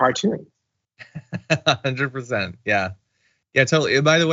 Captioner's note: laugh